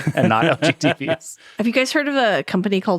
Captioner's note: laughing